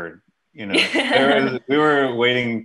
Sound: laughing

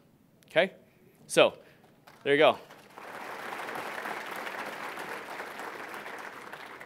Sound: audience applauding

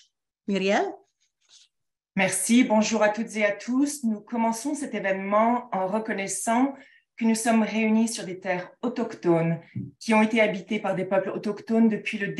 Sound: speaking in French

